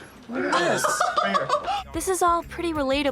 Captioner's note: laughs